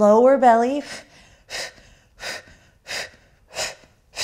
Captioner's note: breathing